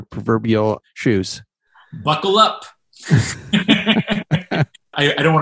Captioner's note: laughter